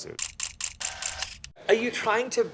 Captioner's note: camera shudders